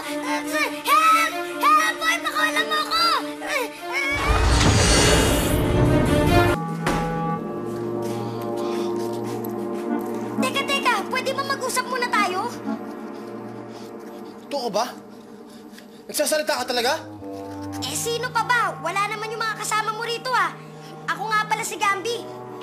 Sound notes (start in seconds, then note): 4.1 Gambi groans, grunts